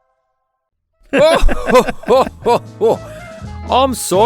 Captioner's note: Tralnis and Gareth laughing